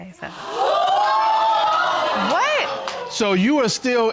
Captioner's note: audience gasping